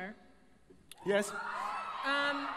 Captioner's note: crowd cheers